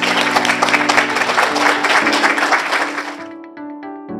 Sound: audience applauding

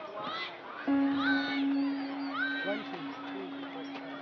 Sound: students shouting

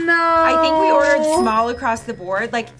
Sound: cash register rings

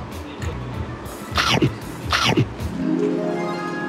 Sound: munching

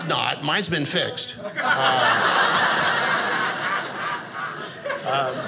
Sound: audience laughing

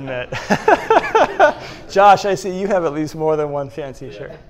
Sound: laughs

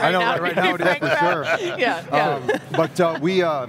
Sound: group laughs

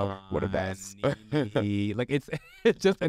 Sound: laughs; Sasha laughs

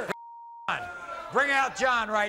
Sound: beep

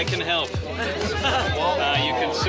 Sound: crowd talking

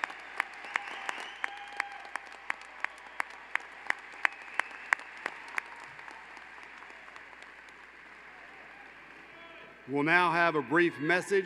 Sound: applause

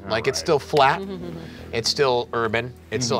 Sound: laughing

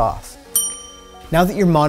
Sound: ding

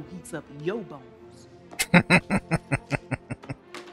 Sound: laughing

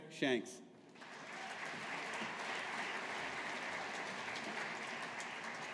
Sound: audience applauding

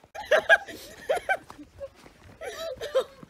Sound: laughing

